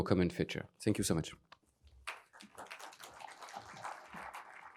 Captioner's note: applause